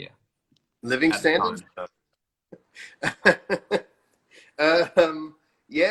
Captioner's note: laughs